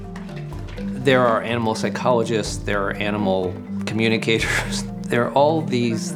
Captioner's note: narrating